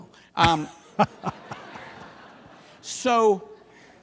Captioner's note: laughter